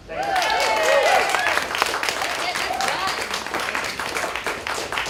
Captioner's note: applause